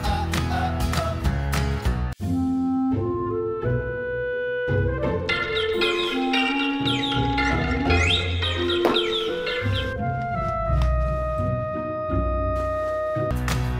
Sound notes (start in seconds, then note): 2.3 playful music; 5.2 birds chirping; 10.2 calm playful music